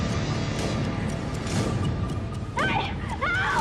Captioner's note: woman screaming